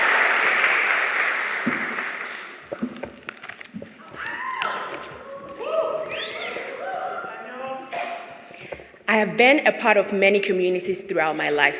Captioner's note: cheers and applause